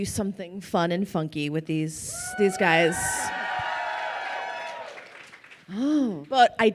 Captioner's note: crowd cheering